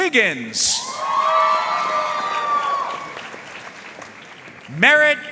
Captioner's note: audience cheering and applauding